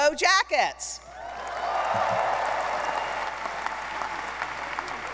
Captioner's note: audience applauding